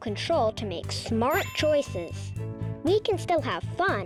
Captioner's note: check mark rings